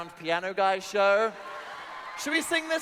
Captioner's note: audience laughing